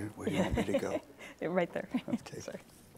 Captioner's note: laughs